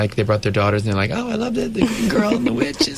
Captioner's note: interviewer laughs